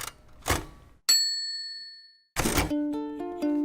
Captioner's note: ding; guitar music